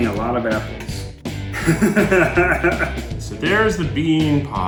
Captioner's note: laughing